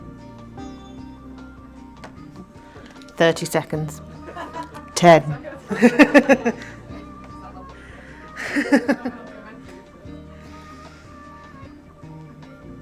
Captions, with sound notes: 30 seconds. 10. (WOMAN LAUGHING) (GENTLE MUSIC)